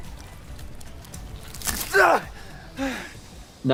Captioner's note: man groaning